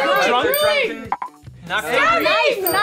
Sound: bell dings

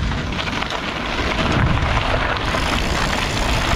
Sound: bicycle pedaling

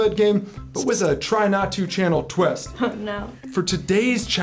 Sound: laughs

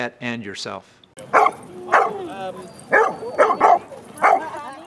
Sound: barking

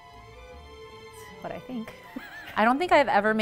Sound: laughing

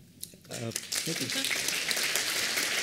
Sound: applause

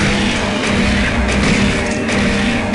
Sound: gunfire; gunfire and monster shrieks

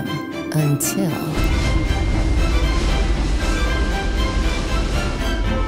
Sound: snow Falling Sounds

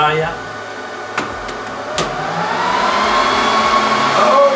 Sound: loud whine as the Dell is turned on

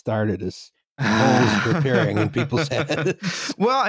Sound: laughter

